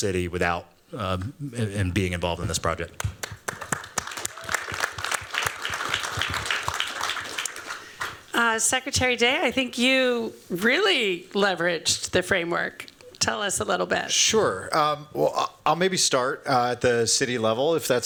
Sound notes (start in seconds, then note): 3.0 applause